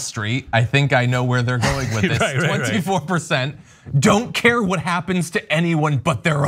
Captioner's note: laugh